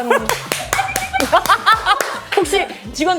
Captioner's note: exploding laughs from the start